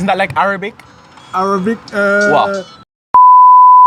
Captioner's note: phone rings